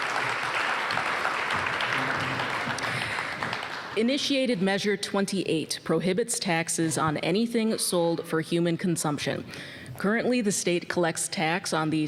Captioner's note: applause